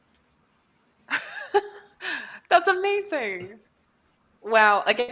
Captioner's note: laughs